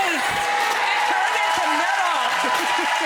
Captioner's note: audience cheers; audience applauds